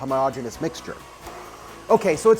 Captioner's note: mixer buzzes